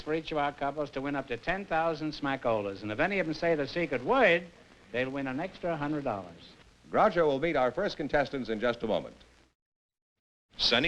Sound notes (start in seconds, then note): none